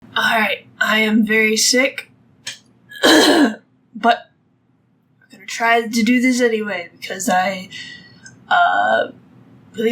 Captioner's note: coughs